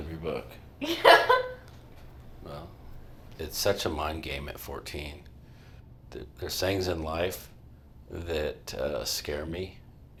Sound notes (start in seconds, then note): 0.9 laughs